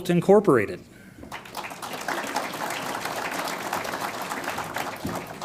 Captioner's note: audience applauds